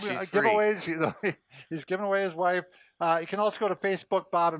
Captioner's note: laughs